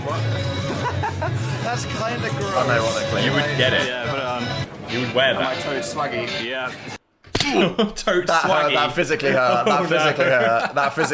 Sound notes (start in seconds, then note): 0.4 laughs; 7.6 "Roblox" death sound